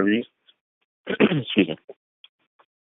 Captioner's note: clearing throat